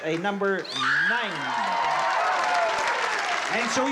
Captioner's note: cheering